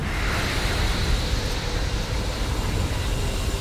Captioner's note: sizzling